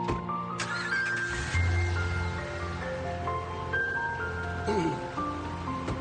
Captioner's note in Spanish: Sonido al arrancar el motor